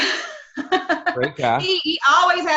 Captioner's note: laughs